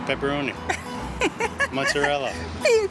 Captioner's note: laughs